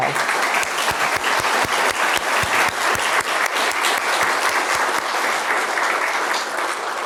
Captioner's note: applause